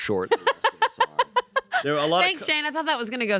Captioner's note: everyone laughs